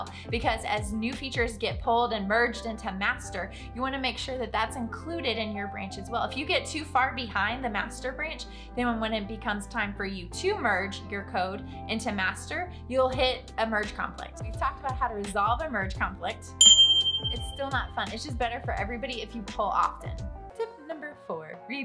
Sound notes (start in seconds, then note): 16.6 ding